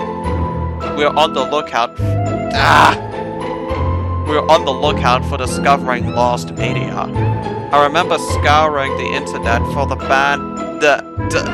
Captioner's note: rgoans